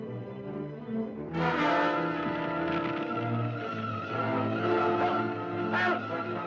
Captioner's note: ominous music; suspenseful music; flames crackling